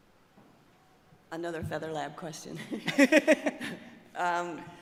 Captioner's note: laughs